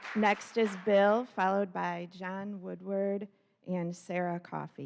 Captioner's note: applause